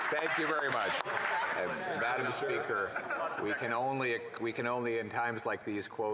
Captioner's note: applause